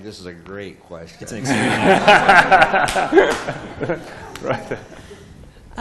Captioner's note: laughter